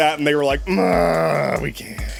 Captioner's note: groans